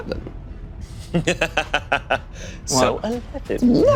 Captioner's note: laughing